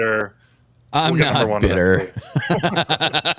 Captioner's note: laughter